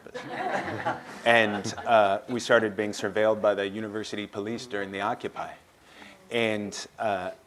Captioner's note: laughter